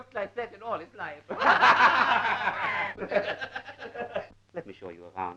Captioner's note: laughing